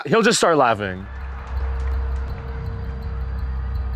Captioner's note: audience claps